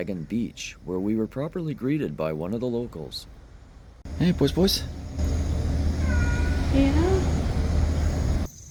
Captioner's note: meow!